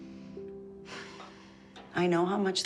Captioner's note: sighs